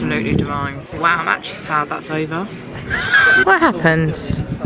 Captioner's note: laughs